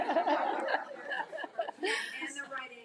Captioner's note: group laughs; laughs